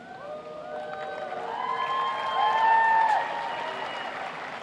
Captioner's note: applauding